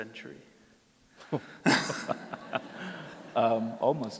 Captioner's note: laughter